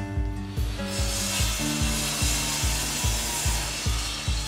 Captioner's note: saw buzzing